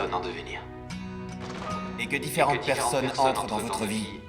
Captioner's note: door opening